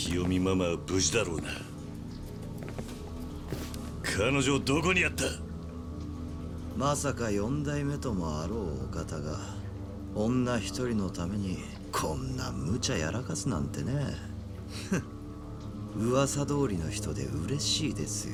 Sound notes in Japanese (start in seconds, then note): 15.0 笑い